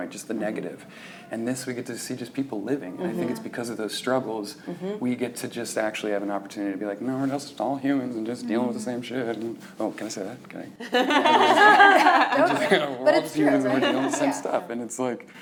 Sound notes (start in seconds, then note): 10.9 laughing